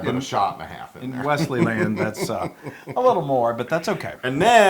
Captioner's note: laugh